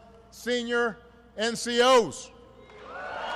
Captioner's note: applause